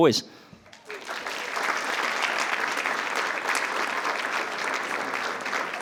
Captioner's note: attendees applauding